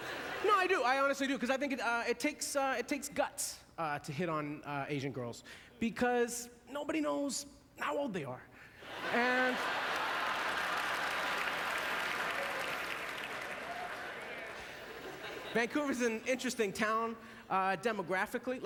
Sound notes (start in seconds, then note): 9.3 audience laughter